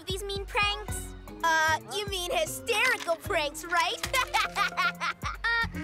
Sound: laughing

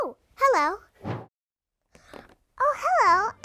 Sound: air swish

